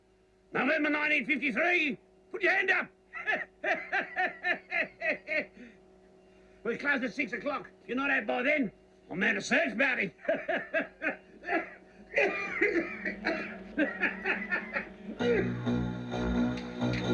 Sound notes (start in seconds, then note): 3.1 laughing; 10.1 laughing, coughing